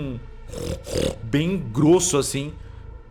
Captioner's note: oinking